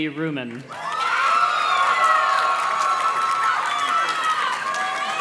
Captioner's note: audience cheers and claps